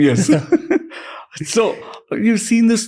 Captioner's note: chuckles